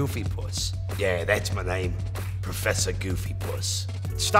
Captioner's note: British accent